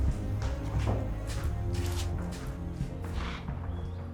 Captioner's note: footsteps